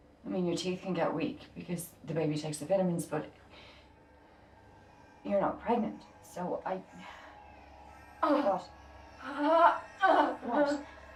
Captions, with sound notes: I mean your teeth can get weak because, the baby takes the vitamins but... You're not pregnant, so I... What? [Sarah in pain] Sarah, what?